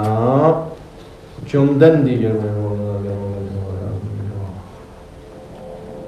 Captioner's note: tibetan